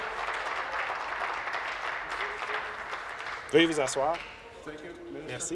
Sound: applause

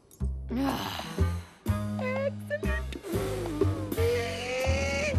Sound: sighing

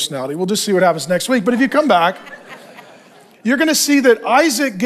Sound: congregation laughing

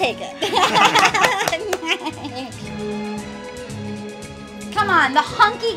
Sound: laughter

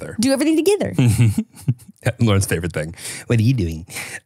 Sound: chuckles

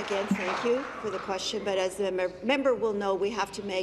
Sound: applause

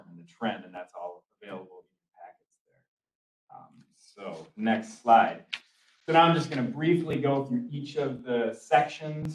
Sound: papers rustle

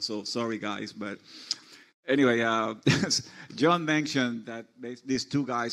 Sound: laughs

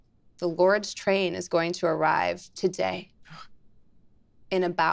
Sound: Zac gasps

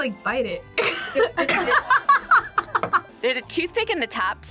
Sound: both laugh

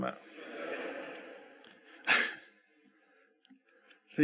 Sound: laughter

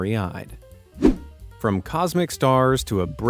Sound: air whooshing

